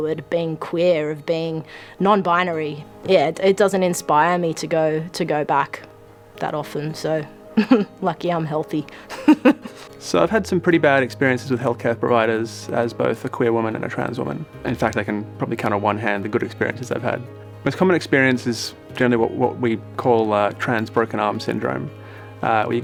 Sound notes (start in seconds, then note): 9.0 laughing